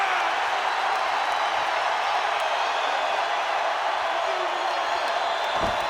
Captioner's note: audience continues cheering